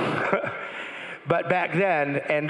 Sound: crowd laughing

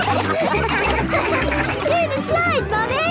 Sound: all laughing

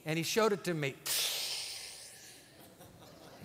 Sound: inhales sharply

